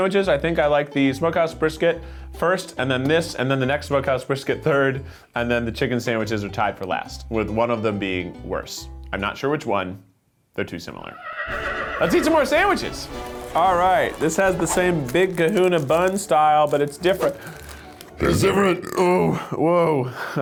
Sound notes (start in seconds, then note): 11.0 horse whinnies; 17.2 belches